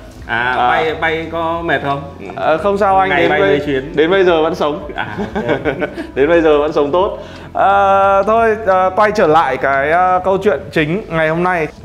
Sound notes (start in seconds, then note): 4.8 laughing